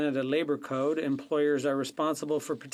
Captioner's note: speaking French